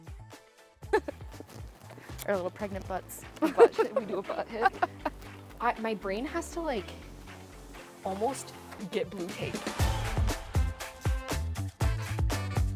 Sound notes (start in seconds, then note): 0.9 chuckles; 4.8 laughs; 9.2 bright lively music